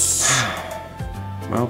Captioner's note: sighs